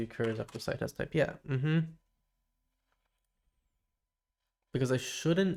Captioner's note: silence